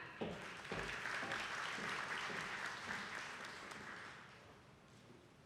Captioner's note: attendees clapping